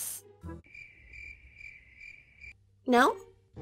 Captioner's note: cricket Sounds